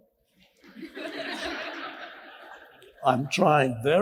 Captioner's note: audience laughs